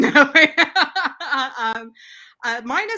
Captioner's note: laughs